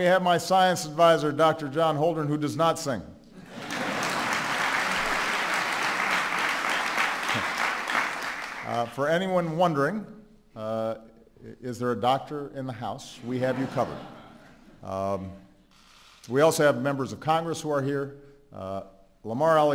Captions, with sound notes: And we have my science advisor, Dr. John Holdren, who does not sing. (APPLAUSE) For anyone wondering, "Is there a doctor in the house?"-- we have got you covered. We also have members of Congress who are here.